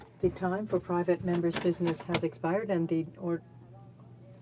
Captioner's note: speaking French